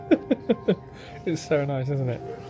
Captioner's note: laughs